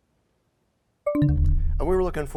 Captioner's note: bell chimes, time expires